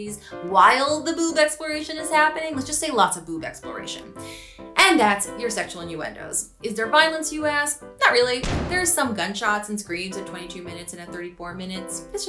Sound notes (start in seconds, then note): 8.4 gun shoots